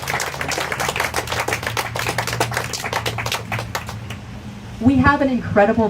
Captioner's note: applause